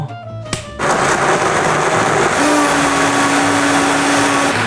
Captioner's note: machine churning